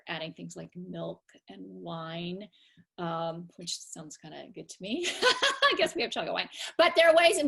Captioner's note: laughter